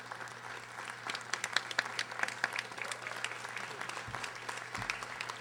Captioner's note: audience applauding